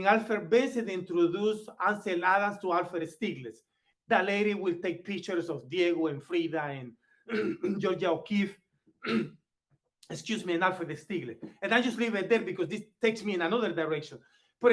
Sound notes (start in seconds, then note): 9.0 clears throat